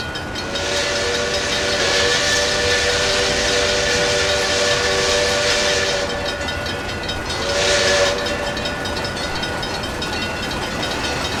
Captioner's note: wig wag ringing; PRR FG-1 whistle